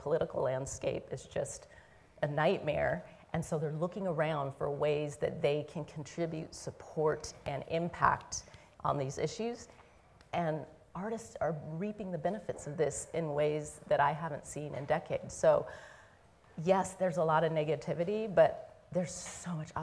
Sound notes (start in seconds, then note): none